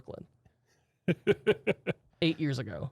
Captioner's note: softly laughing